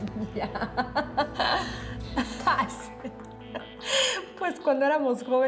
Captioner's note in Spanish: risas